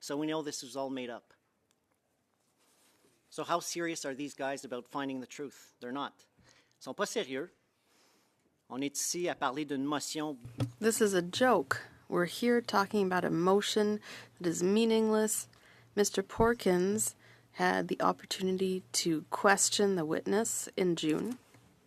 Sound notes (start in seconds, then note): 10.9 speaking French